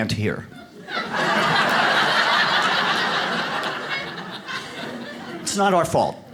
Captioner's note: audience laughs